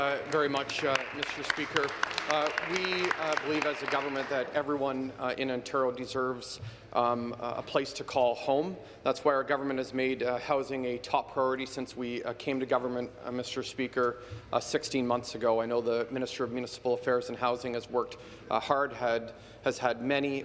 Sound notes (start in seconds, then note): 4.7 some Applause